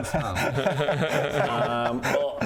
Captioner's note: sad laughs